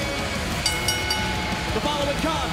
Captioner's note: bell ringing